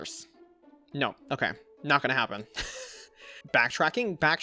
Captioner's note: chuckles